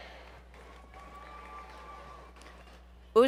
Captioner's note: applause